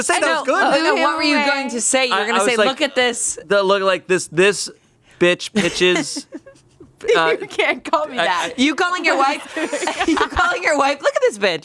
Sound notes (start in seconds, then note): 5.6 laughs